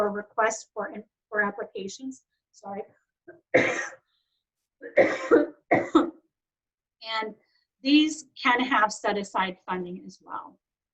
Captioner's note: coughs